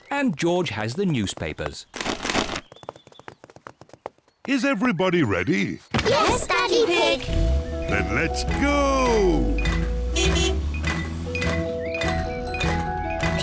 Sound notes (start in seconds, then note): 2.0 papers thud; 10.0 horn honks